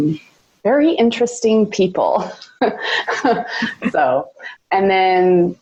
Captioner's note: laughs